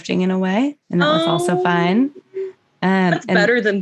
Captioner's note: aww